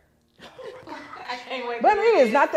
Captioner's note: others laughing